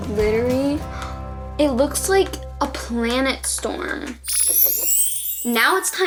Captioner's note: gasps